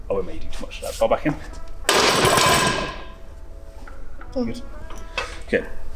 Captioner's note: metal clanging